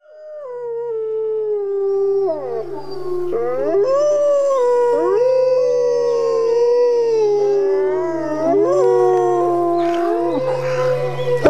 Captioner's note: wolves howling